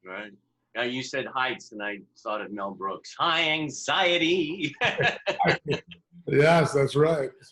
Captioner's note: laughter